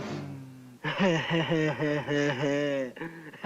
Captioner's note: mocking laughter